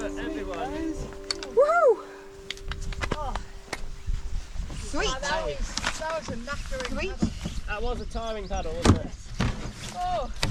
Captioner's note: casual chatter